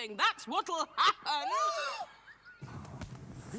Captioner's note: gasping